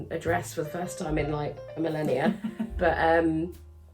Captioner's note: laughs